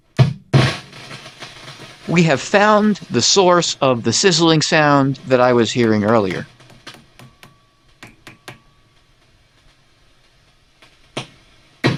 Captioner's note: sizzling Sound; tapping Sound